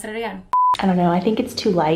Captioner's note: beep